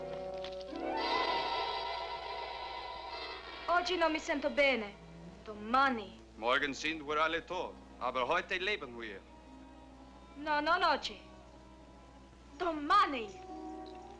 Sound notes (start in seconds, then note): 3.7 Maria speaking in Italian; 6.5 soldier speaking in German; 10.4 Maria speaking in Italian